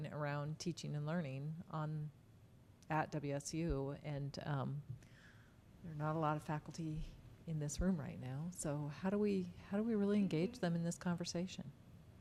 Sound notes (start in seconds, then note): none